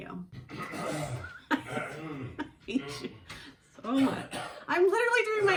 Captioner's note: gross Intentional Coughing from the basement